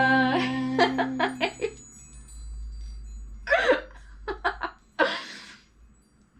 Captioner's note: laughing